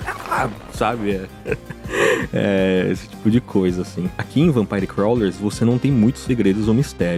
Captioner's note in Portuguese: risadas